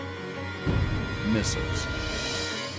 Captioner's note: rocket explodes